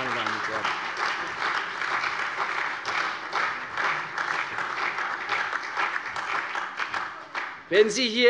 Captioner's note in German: Lebhafter Beifall CDU und BÜNDNIS 90/DIE GRÜNEN - Beifall AfD